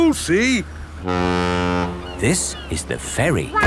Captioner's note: laughing; ferry horn blows